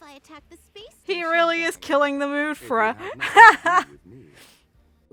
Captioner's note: laughs